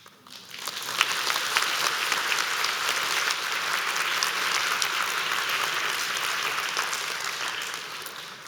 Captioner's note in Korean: 박수